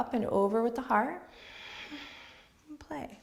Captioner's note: exhales